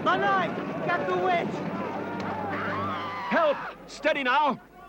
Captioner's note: White Witch screams